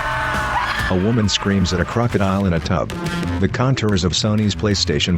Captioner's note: screaming